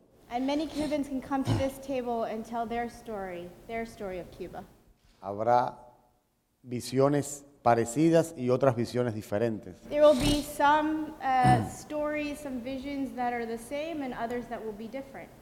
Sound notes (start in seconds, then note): 4.7 speaking in Spanish